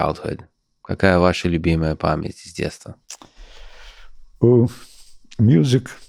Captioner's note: speaks in Russian